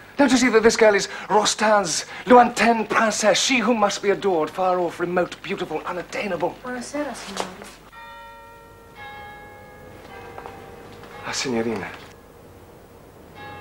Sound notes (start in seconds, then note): 7.9 clock chiming